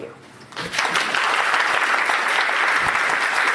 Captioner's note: applause